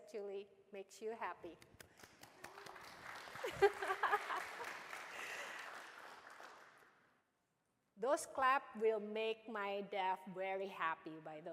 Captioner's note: applause